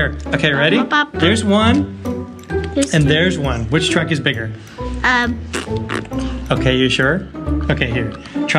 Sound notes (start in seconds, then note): 5.2 blowing raspberries